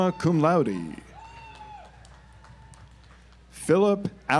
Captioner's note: audience applauds